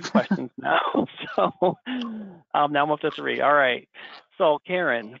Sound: laughs

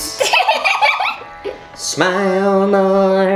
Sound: giggles

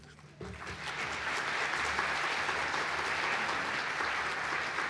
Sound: applause

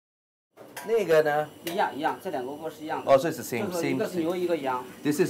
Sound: speaking Chinese

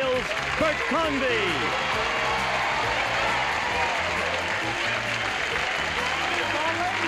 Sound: applause and cheering

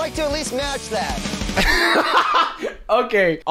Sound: laughing

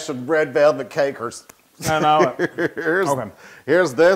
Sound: laugh

